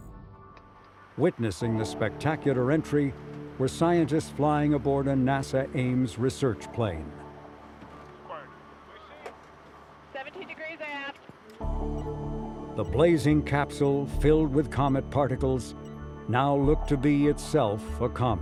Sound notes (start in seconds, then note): 8.2 scientists chattering; 11.6 soft electronic music